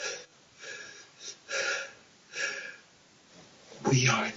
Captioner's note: crying